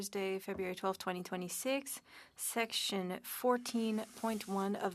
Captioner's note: speaking French